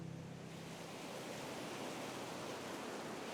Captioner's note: waves breaking